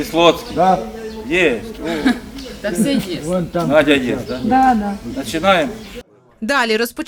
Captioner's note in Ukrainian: перегук